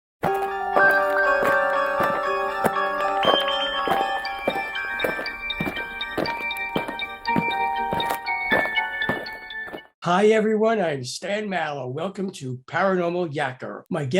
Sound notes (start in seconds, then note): 0.2 eerie music; 4.9 aliens marching